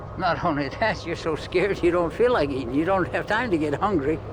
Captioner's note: chuckling